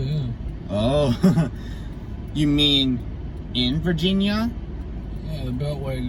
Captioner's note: chuckles